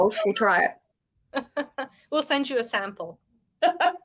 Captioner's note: woman laughing